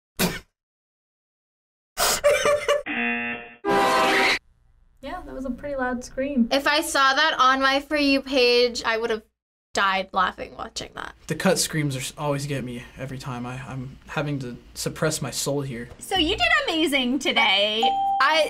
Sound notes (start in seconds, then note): 0.1 buzzer rings; 0.1 laughs; 2.9 horn blares; 3.8 woman screams; 17.8 bell rings